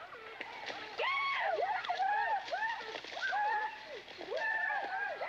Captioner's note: boys hooting